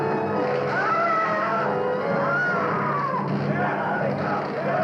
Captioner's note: shouting; screaming